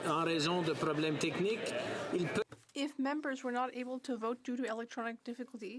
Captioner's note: speaking French